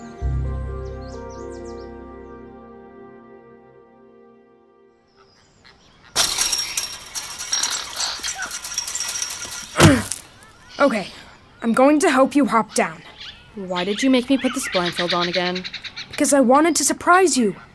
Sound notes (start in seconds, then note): 6.1 metal fence rattling; 9.7 loud grunt